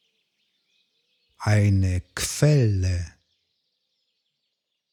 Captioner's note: german